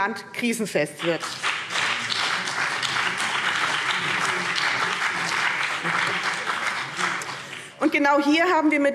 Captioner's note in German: Beifall BÜNDNIS 90/DIE GRÜNEN und vereinzelt CDU